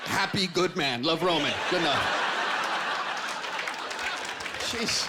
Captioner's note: laughter